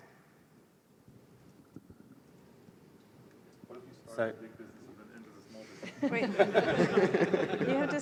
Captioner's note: laughter